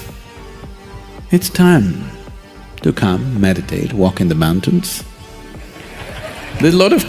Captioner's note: participants Laugh; प्रतिभागी हंसते हैं